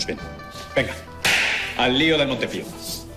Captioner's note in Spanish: palmada